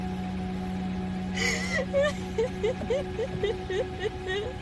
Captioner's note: sobbing